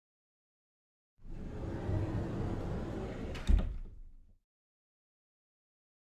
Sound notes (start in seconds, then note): 1.4 sound of closet door